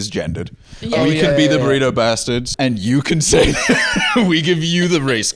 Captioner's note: laughs